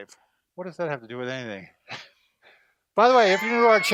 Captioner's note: laughs